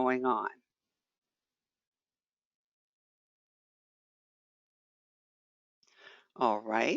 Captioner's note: 5 seconds pause